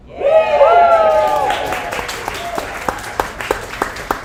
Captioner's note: audience applauds